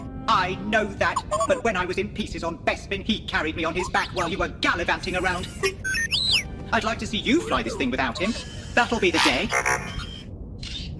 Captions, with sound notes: I know that! But when I was in pieces on Bespin he carried me on his back while you were gallivanting around! [R2D2 beeps] I'd like to see YOU fly this thing without him! That'll be the day! [R2D2 beeps]